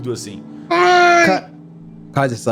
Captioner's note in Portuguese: Grunhido de dor